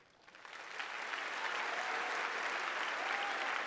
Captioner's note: applause